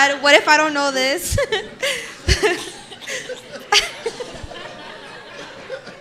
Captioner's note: participants laughing